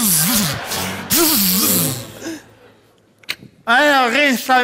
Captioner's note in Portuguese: barulho de eletricidade